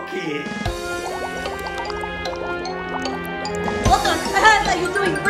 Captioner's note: mock-turtle soup bubbles